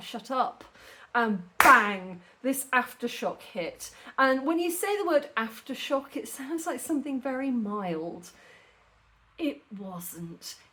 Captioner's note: clap